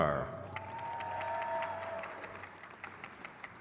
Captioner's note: crowd claps